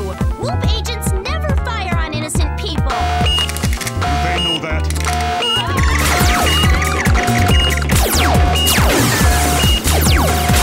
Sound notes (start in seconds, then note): 5.0 siren beeping; 5.5 girls screaming; 8.1 guns firing